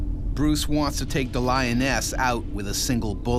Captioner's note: voiceover